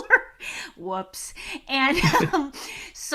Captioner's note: laughing; laughing